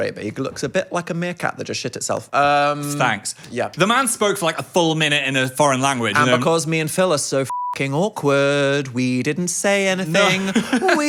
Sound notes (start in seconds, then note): 7.5 beep; 10.1 laughs